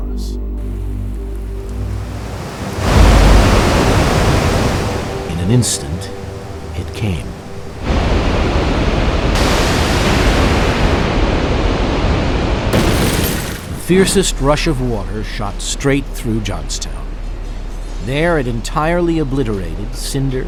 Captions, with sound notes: - [Voiceover] In an instant, it came. (rushing water) Fiercest rush of water shot straight through Johnstown. There it entirely obliterated Cinder, Washington, Market, Main and Walnut streets.